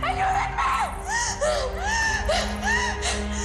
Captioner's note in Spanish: Sollozos